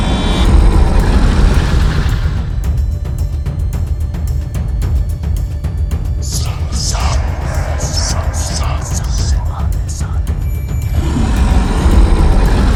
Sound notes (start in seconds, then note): 4.2 intense chase music; 6.7 the Judges of the Underworld incantations in ancient language; 10.8 intense chase music